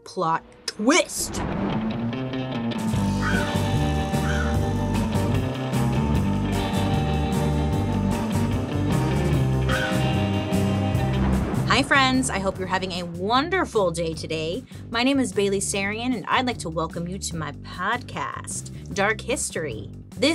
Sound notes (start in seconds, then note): 1.1 thunder rumbling; 1.3 spooky music; 1.5 crow cawing